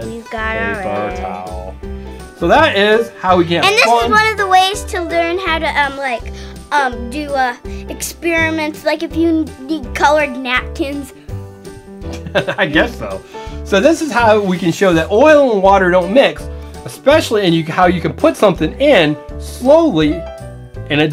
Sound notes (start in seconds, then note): 12.1 laughs